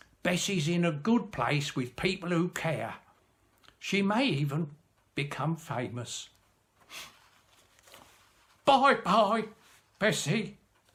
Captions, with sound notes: Bessie's in a good place with people who care. She may even become famous. [SNIFFS] Bye bye, Bessie!"